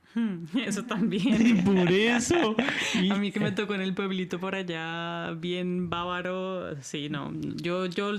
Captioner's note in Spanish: risas